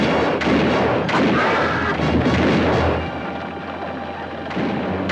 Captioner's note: guns fire; Apache screams